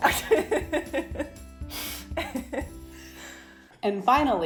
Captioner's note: laughter